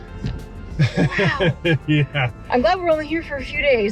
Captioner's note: laughing